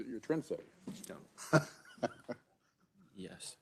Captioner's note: member laughs